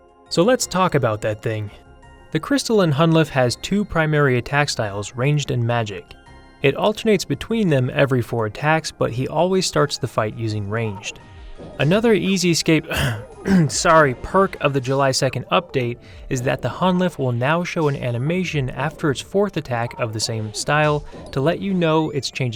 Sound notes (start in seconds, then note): 12.8 cough